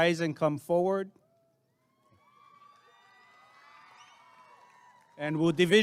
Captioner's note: applause and cheering